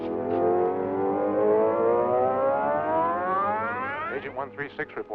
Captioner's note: scanning device hums